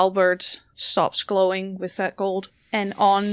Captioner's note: shining chime